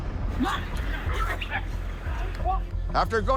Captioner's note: dogs barking